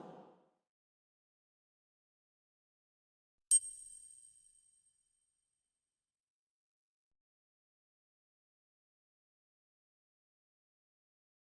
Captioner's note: silencio